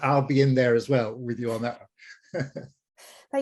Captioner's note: laughing